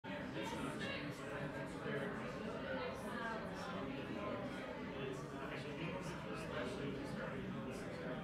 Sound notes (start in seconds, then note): 0.0 people chattering